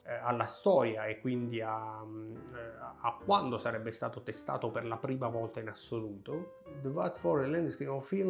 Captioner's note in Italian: legge in inglese